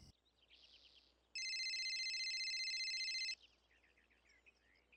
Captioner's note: phone ringing